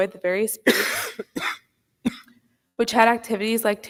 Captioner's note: person coughs